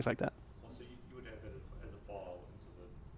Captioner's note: voiceover